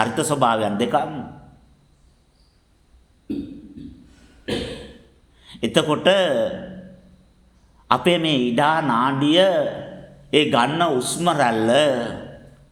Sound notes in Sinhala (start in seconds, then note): 3.2 උගුර කෑරීම